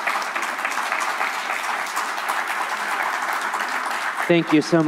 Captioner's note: applause